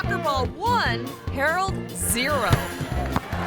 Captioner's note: ball thumps; audience applauding; bell dinging